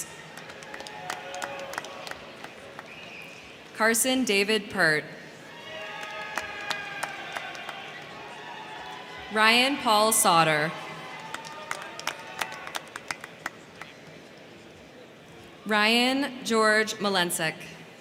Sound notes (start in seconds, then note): 0.0 crowd cheering; 0.0 crowd clapping; 5.3 crowd cheering; 5.5 crowd clapping; 10.5 crowd clapping; 11.0 crowd cheering